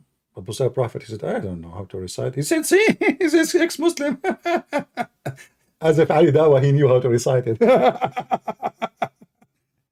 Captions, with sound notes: Apostate Prophet said, "I don't know how to recite." He said, "See, he's an ex-Muslim!" [Laughing] As if Ali Dawah knew how to recite it. [Lauging]